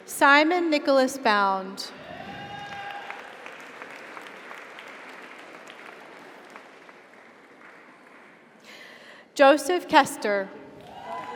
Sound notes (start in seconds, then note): 2.0 audience cheers; 2.2 audience applauds; 10.8 audience cheers; 10.9 audience applauds